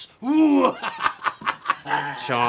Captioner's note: laughing